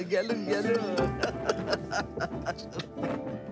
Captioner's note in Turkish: Gülüyorlar